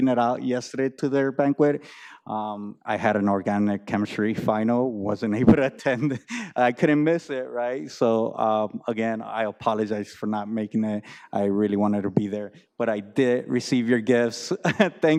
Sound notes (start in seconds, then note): 6.8 laughs